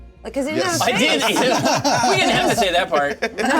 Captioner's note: laughter